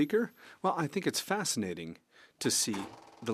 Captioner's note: speaking French